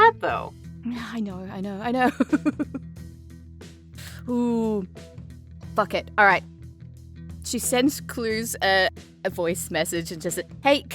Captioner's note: giggles